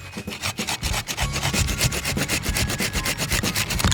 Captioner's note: pruner scraping